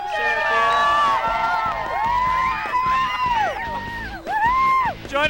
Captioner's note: cheers